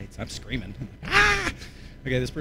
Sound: screams

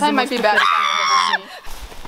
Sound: screams

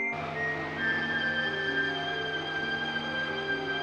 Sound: machine whirring

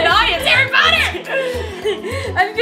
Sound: laughs

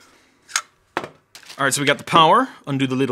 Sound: drive toaster thudding

